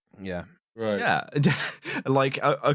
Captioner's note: laughs